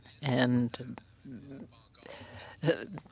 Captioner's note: speaking French